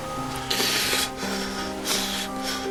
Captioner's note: sobs